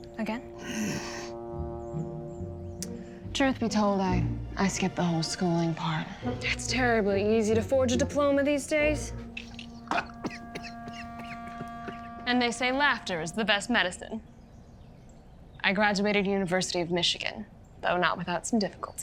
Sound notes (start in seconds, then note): 0.6 inhaling; 9.4 laughs, coughs